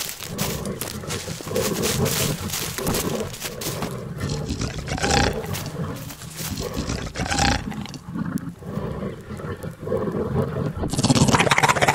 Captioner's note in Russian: злобный рык